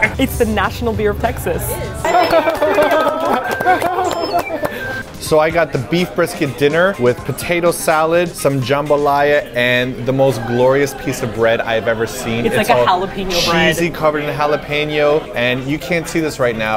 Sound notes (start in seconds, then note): 2.0 giggling gleefully at the foods and meats